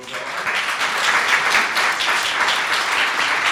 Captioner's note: applause